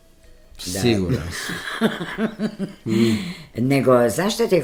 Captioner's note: laughter